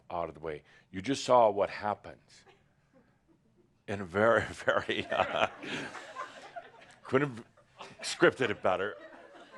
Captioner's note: laughter